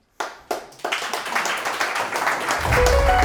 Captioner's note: students clapping; soft music